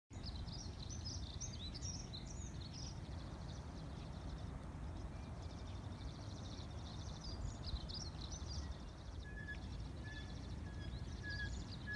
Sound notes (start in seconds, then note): 0.0 birds chirping